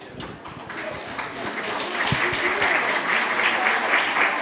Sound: audience applauds

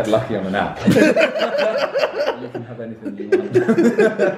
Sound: laughing

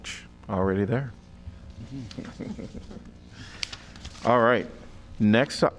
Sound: laughter

